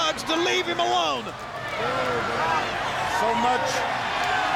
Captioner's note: crowd cheering